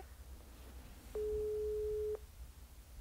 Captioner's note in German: Freizeichen